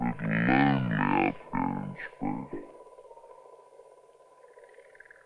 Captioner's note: delayed speech